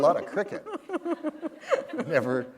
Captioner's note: laughter